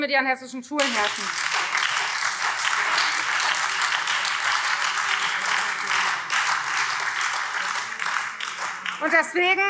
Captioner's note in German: Beifall Freie Demokraten, AfD und BÜNDNIS 90/DIE GRÜNEN